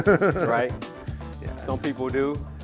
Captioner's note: laughter